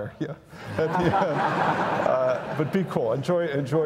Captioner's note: audience laughs